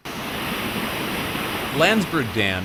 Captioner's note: soundup of falling water